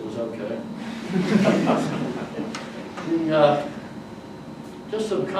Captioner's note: audience laughs